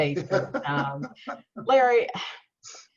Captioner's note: laughs